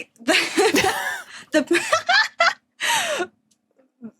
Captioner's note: cracks up; wheezes; laughs heartily